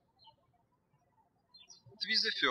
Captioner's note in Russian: птички щебечут